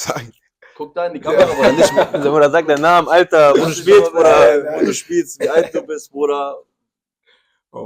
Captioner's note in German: gelächter